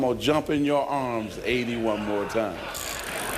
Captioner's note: laughter